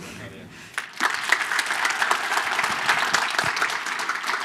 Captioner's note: applause